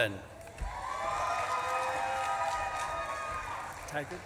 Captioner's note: audience claps and cheers